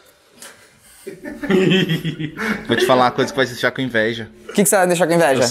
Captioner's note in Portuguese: risadas